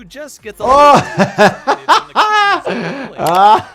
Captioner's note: laughs